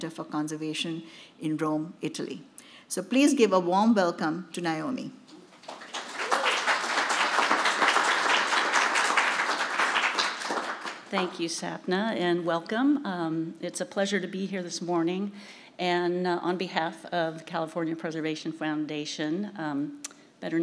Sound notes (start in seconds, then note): 5.4 audience clapping